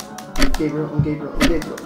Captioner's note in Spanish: murmurando y repitiendo